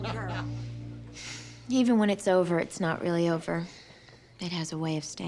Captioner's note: sighs